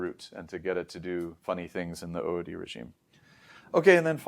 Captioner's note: inhales